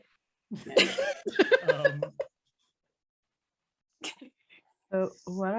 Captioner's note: laughter